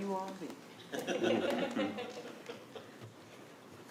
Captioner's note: attendees laughing